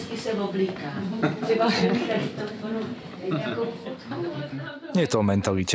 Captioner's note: bystanders chuckling